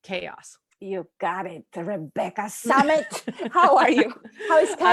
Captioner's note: laughs